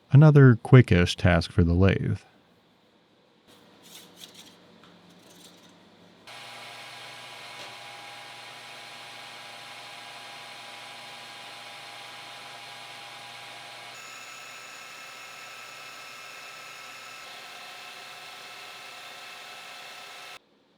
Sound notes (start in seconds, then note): 6.3 machine revving